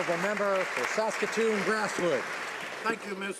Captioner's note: applause